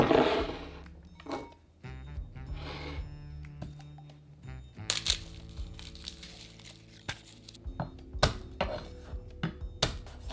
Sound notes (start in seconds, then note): 4.9 garlic paper rustling; 8.2 knife smashing